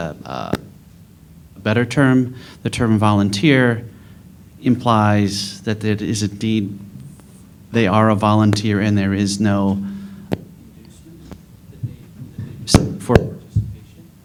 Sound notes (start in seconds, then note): 6.0 microphone problems